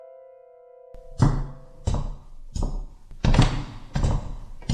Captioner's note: footsteps